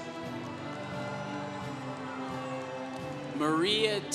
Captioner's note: congregation cheering